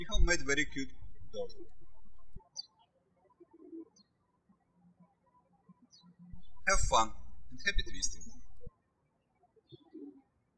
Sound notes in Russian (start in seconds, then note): 3.2 птички щебечут; 9.6 птички щебечут